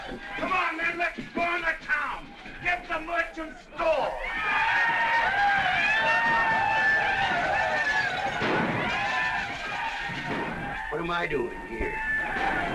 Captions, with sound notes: Come on, men, let's burn the town! Get the merchant's stores! [ WHOOPING ] What am I doing here?!